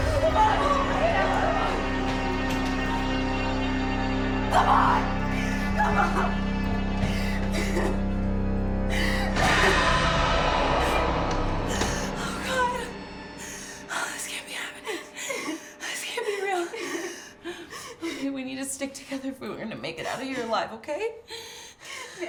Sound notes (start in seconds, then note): 1.9 ominous music; 7.5 Rose whimpering; 9.4 suspenseful music